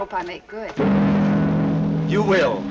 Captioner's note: ships horn blowing